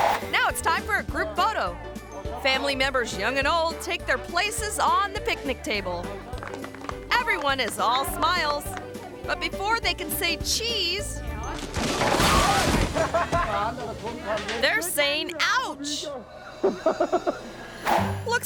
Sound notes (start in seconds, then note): 5.8 people clapping; 12.9 person laughs; 16.6 person laughs